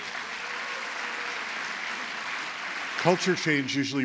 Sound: applause

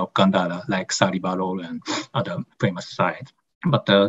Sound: non-english speech

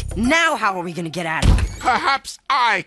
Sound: door opens

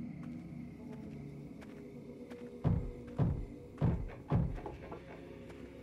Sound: pounding continues

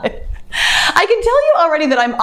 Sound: laughs

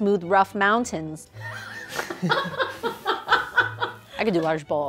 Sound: laughs

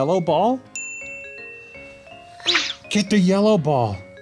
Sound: dinging

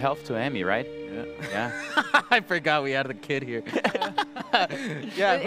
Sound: laughs

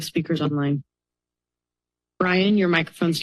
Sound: pause

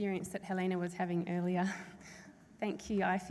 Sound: laughs

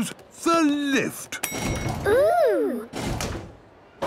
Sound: lift pings

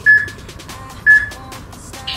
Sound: peep

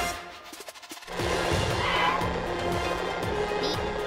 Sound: tires screeching

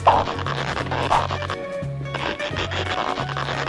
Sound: marker screeches

